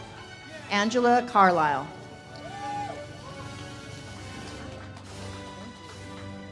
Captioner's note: audience cheers and claps